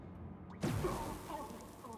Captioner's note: gun firing